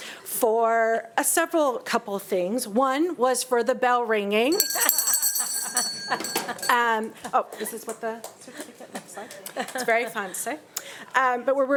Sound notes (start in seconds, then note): 4.5 bell ringing; 4.6 board members laughing